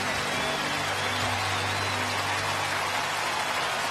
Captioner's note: cheers and applause